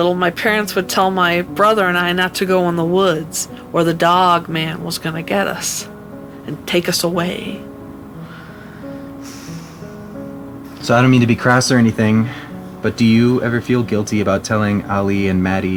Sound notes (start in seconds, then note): 8.2 sighs